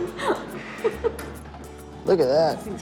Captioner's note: laughter